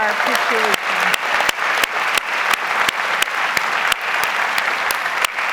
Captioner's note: audience applauds